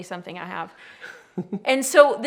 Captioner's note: laughs